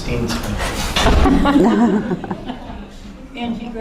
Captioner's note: laughter